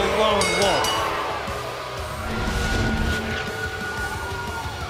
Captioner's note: bell ringing